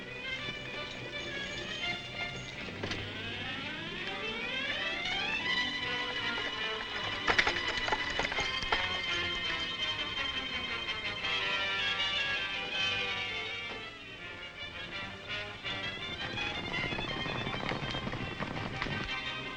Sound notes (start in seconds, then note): 0.1 exciting music; 7.5 horses galloping; 16.5 horses galloping